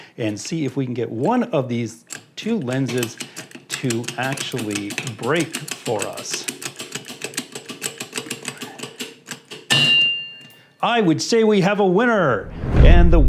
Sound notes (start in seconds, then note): 6.2 jack pumping